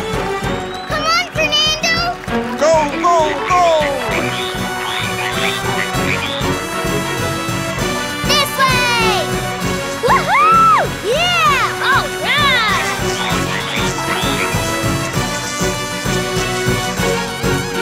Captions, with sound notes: Come on, Fernado! Go! Go! Go! [croaking] This way! Whoo hoo! Yeah! All right! [croaking]